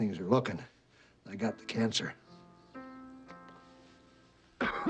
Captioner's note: coughing